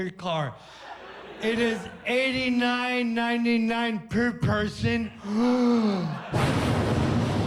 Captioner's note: gasps